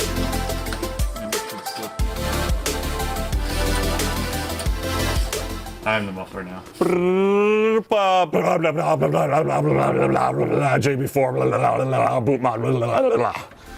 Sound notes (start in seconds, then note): 8.5 imitates engine revving; 10.9 jabbering